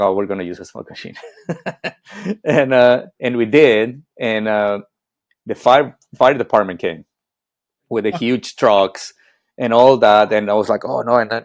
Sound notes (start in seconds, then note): 1.1 laughing